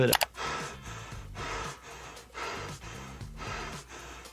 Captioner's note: IShowSpeed panting